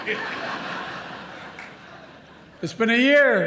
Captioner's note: laughter